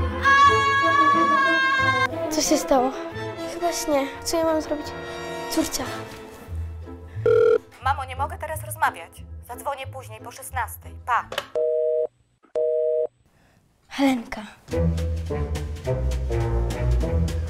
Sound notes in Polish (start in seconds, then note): 10.7 dźwięk urwanego połączenia